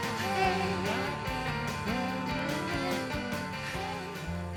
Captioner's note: sad and melancholic 'Hey...'